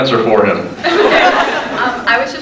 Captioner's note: laughs; scattered laughs